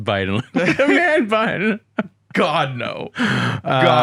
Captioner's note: both laugh